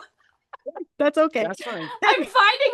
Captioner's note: laughing